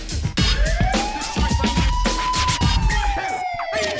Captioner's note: siren blaring